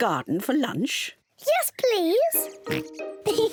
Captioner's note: oinks; both laugh